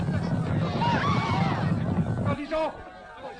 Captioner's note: woman screaming